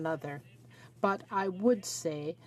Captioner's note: speaking French